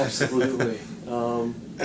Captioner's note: laughs